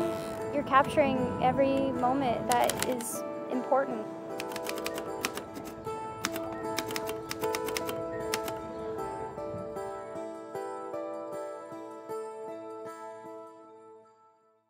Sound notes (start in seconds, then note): 4.4 typewriter clacking; 4.6 soft music